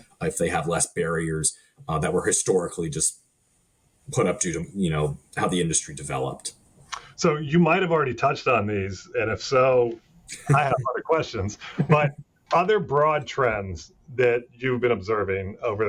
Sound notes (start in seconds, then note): 11.2 laughing